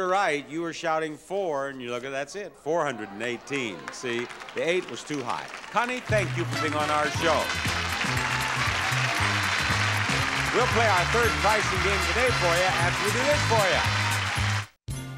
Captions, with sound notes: You were shouting four and look, that's it. 418, see? The eight was too high. Connie, thank you for being on our show. (audience applauding) (upbeat music) We'll play our third pricing game today for you after we do this for you.